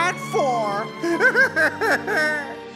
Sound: crying

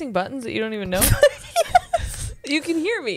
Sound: laughs

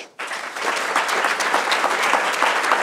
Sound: applause

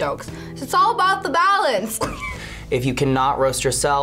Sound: laughs

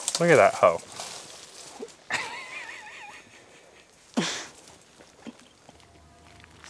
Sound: laughs

